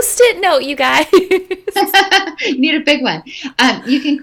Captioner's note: laughing